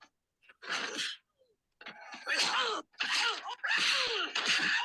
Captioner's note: loud blows and growling